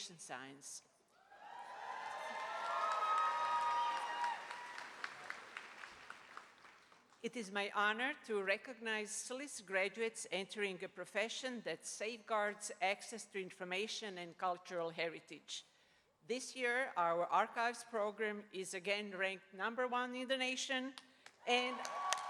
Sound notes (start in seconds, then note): 8.0 applause